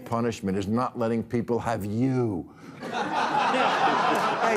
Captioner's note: audience laughing